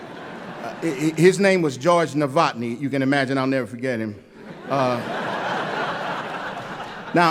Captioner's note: laughter